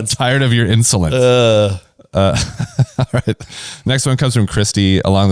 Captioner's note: laughs